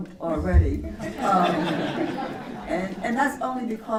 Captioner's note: laughter